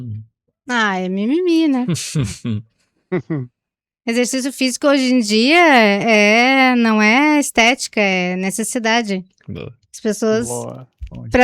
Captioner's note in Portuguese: risadas